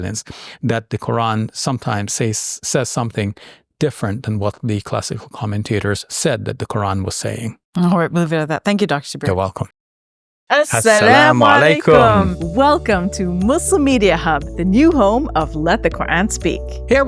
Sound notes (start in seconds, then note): 7.8 speaking foreign language